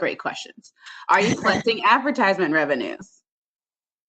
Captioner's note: laughter